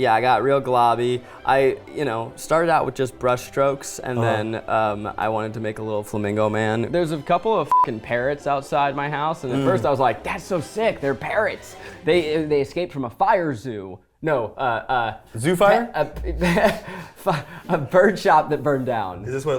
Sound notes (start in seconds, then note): 16.2 chuckling